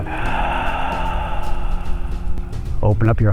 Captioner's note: exhaling